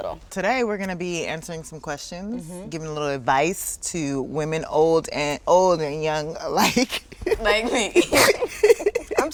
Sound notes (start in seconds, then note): 6.6 laughs; 6.7 both laugh